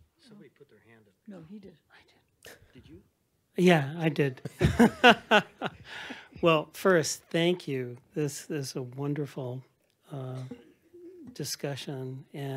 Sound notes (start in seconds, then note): 4.4 laughs